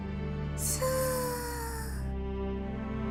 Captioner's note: inhale